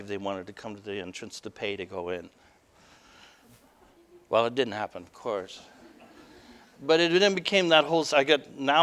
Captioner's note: audience: Laughter